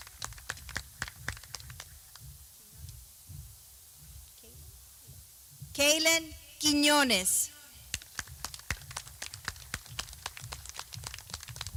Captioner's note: clapping